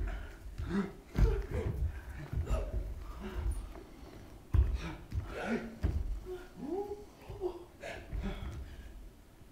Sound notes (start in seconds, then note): 5.2 gasps